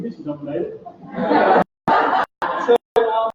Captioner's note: laughter